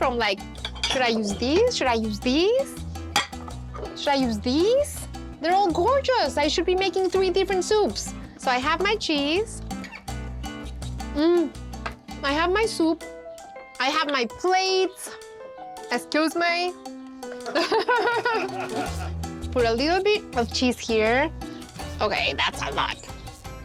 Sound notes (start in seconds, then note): 17.4 laughter